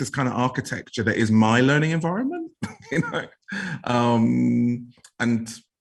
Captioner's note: laughs